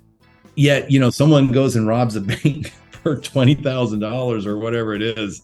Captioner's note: laughs